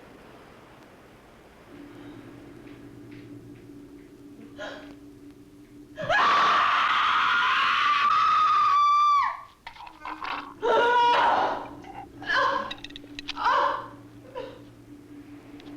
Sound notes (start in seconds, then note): 6.0 she screams